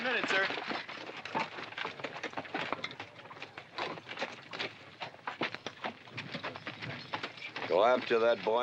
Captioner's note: horses trotting